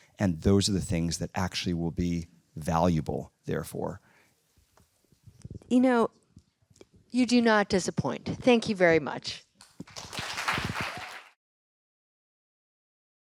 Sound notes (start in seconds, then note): 9.8 applause